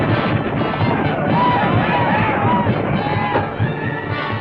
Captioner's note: shouting; gunshots